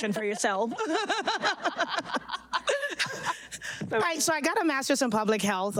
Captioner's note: all laughing